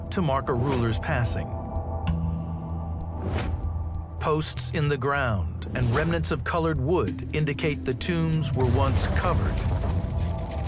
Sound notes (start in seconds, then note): 1.7 air whooshes; 1.7 gentle frantic music